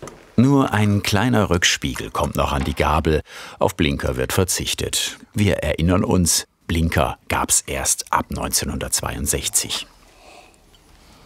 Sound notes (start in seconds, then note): none